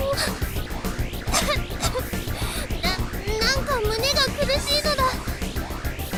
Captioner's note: cough